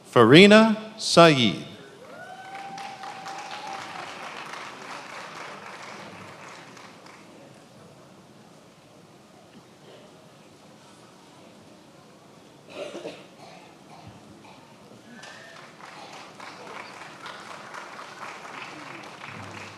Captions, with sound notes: Farina Syed. (attendees applauding)